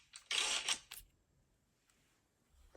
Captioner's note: none